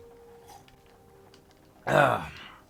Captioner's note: sips water